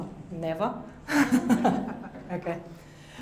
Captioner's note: laughs